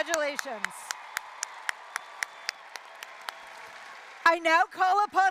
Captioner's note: applause, cheering